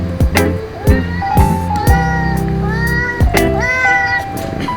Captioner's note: the sound of our home's cat meowing